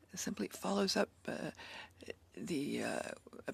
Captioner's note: speaking in French